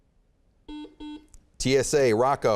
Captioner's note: beeping